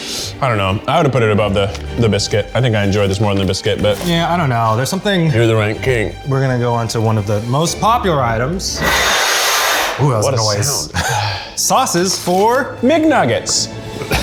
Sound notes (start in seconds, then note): 9.1 scraping